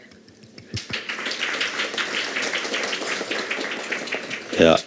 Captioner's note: Aplodeja